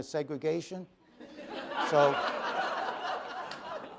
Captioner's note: laughter